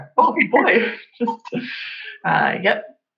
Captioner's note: laughs